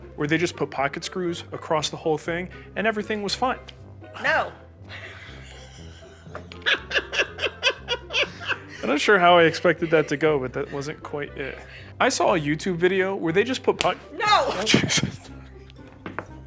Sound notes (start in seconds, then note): 4.9 chuckling; 13.8 slap